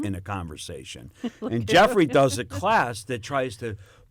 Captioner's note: laughter